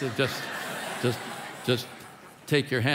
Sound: congregation laughing

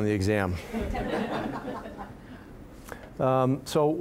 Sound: audience laughing

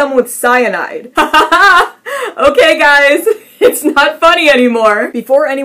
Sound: nervous laughing

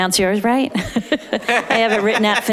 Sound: laughing

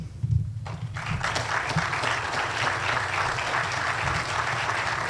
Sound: audience applauds

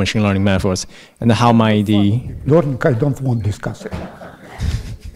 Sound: professor replies with gentle laugh

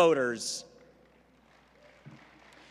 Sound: applause

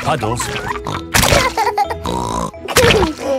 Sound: laughs and snorts

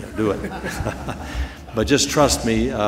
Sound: laughter

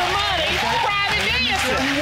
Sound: applause

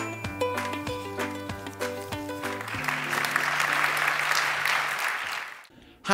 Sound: applause

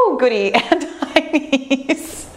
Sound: laughs

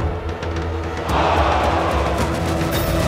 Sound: yelling

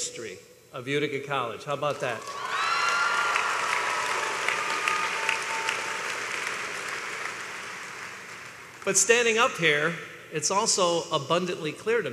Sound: applause

